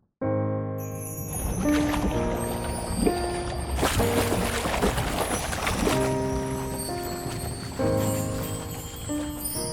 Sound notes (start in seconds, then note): 1.3 bubbling, splashing